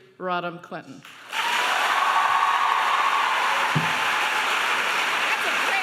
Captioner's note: applauding and cheering